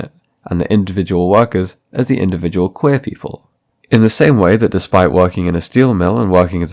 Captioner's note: breathe